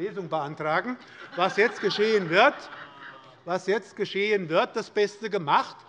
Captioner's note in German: Heiterkeit